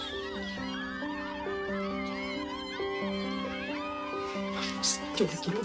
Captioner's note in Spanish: Algarabía de los fans